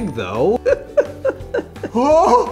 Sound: giggles

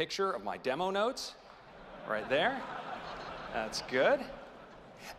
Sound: laughter

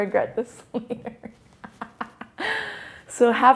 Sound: laughs

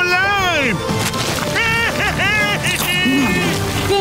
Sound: cheering

